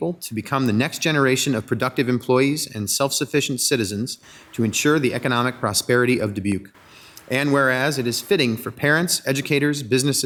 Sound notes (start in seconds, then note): none